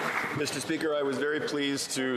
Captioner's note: some Applause